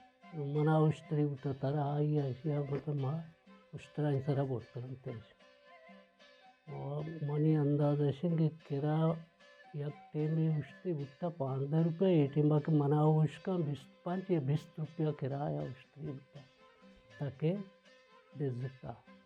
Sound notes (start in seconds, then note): none